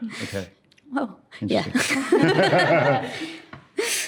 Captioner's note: laughs